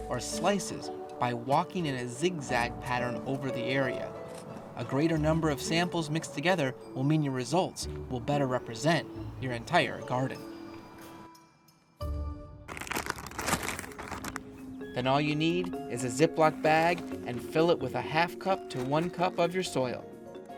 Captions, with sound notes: or slices by walking in a zigzag pattern over the area. A greater number of samples mixed together will mean your results will better represent your entire garden. (bag crinkling) And all you need is a Ziploc bag and fill it with a half cup to one cup of your soil.